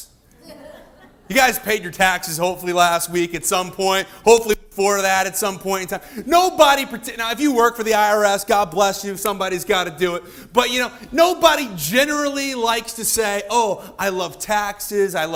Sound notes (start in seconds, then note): 0.4 audience laughing